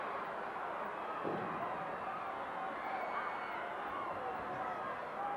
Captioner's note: audience cheering continues